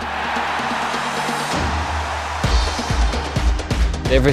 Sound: crowds cheering

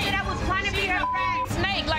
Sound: beep

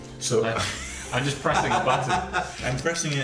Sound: laughing

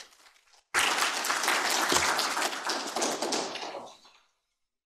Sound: audience clapping

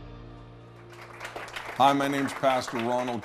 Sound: audience Clapping

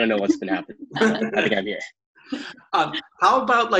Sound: laughs

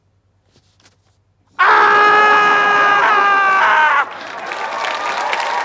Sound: screams; audience applause and cheering

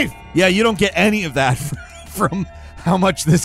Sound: chuckling

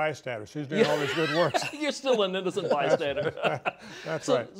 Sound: laughter

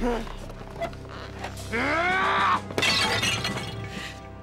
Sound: yelling

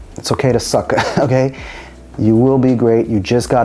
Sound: chuckles

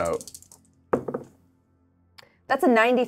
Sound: die thuds

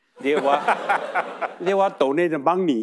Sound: audience laughing

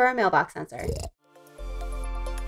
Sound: snort; chill music

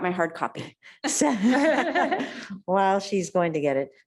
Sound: laughing

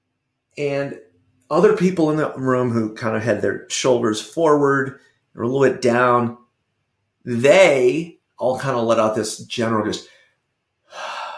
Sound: sigh

